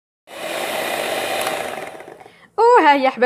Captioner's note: the sound of the electric mixer